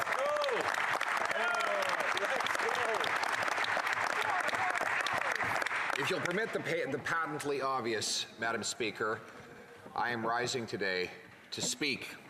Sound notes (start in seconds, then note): 0.0 some Applause